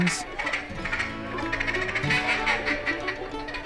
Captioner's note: duck call